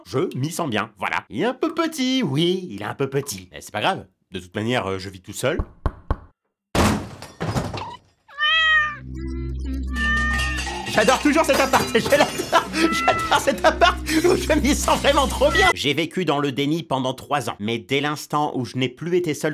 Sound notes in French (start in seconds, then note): 6.8 Toc Toc Toc; 8.3 Le chat miaule